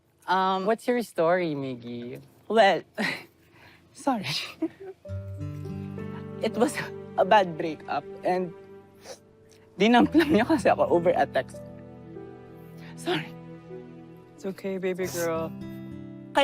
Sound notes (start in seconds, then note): 5.0 somber music playing; 8.9 sniffles